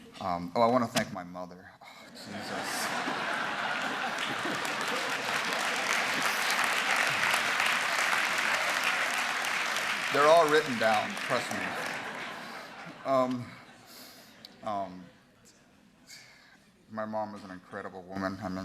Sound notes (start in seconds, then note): 2.2 laughter; 5.2 applause